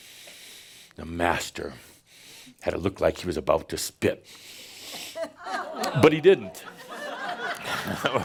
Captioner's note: laughter